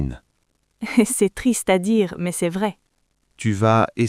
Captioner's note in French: rire